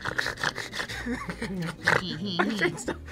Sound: snorts; laughs

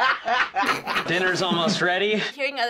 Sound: uproarious laugh track; snorting

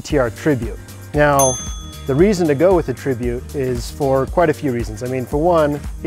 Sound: notification bell dings for pro tip

